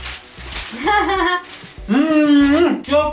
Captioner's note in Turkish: Gülüşmeler